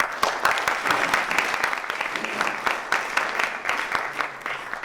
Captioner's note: applause